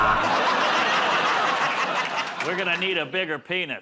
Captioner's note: buzzer